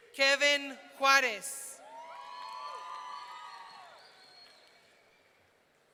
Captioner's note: audience cheering